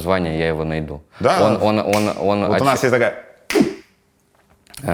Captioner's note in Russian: щёлкает пальцами